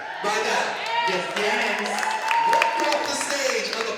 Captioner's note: crowd cheers